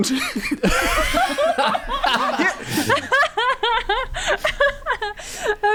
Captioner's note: laughing